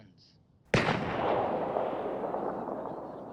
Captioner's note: gun fires; people chattering